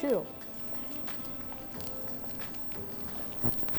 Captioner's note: eggs cooking